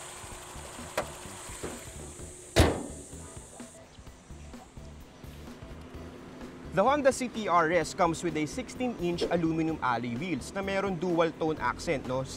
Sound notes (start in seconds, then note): 1.4 hood closes